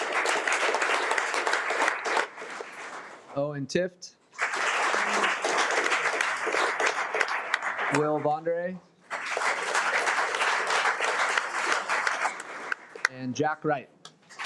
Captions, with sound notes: (audience clapping) Owen Tift, (audience clapping) Will Von Der Ahe (audience clapping) and Jack Wright,